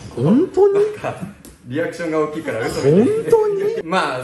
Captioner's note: laughs